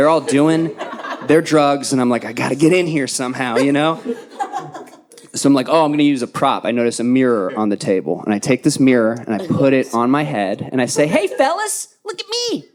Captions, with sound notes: all doing their drugs. And I'm like, I gotta get in here somehow, you know? (audience laughing) So I'm like, oh, I'm gonna use a prop. I notice a mirror on the table. And I take this mirror and I put it on my head. And I say, hey, fellas, look at me.